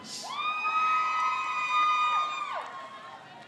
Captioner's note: crowd cheers